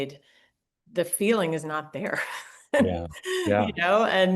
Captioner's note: laughs